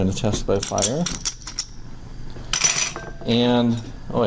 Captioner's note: gas burner crackling; striker clicking